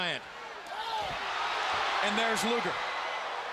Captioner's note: crowd cheering